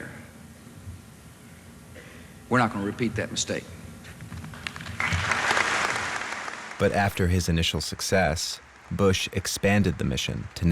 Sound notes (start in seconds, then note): 4.6 applause